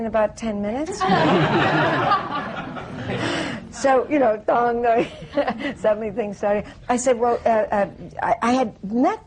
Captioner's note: laughter